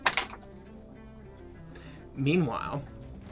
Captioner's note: dice rolling